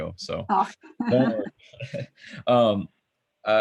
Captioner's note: chuckles